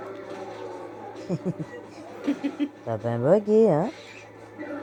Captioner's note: surprised laugh